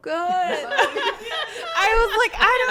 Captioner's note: laughing